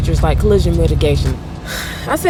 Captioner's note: exhales